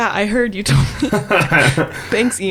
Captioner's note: laughing